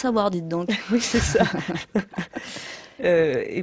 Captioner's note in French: rires